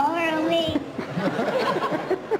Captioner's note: laughter